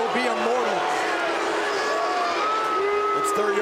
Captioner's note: audience jeers